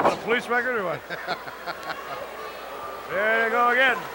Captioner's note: laughs